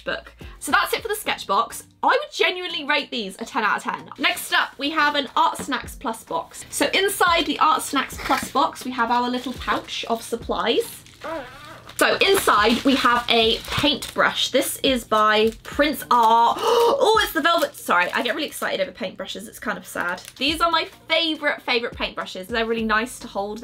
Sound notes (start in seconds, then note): 15.5 gasps